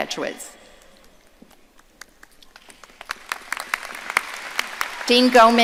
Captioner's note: audience applauding